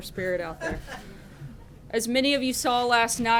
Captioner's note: laughter